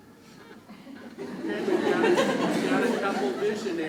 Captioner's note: crowd laughs